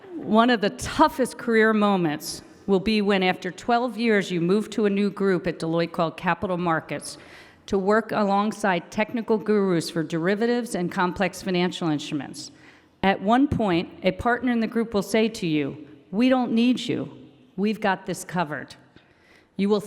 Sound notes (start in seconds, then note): none